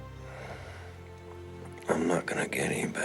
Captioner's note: sighs